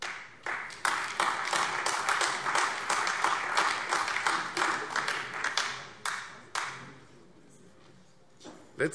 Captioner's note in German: Beifall Freie Demokraten, AfD und vereinzelt CDU